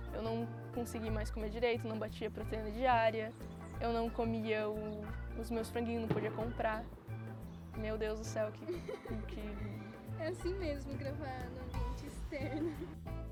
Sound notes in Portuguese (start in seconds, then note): 6.1 barulho de explosão; 8.6 risos